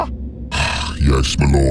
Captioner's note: Royal sighs